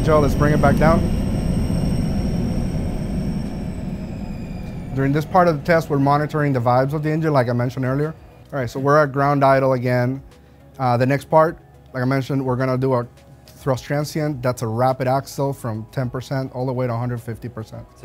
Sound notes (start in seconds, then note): 1.7 engine powering down